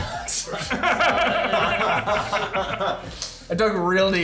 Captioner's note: players laughing